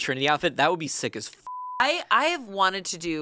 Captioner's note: beep